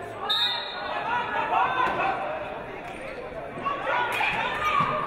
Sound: referee blows whistle

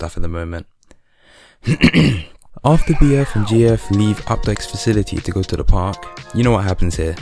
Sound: clears throat

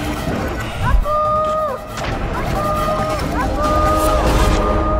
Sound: echoing

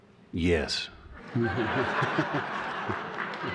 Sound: laughter

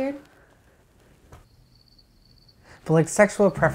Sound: crickets chirping

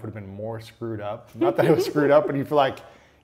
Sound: laughs

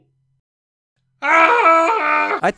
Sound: screams

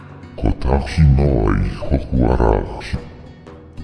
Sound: kurama speaking in maori

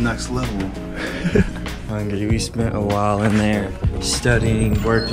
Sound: laugh

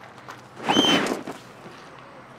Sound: scream

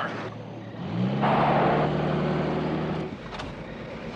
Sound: car revs

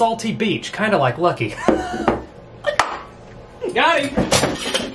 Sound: laughs

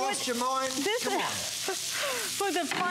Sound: laughter

